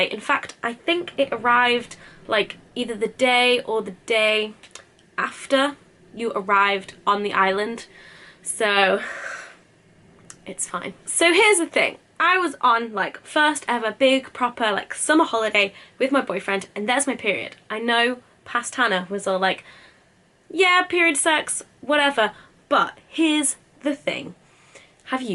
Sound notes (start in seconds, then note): 9.0 exasperated sigh